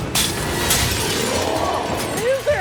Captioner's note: glass shatters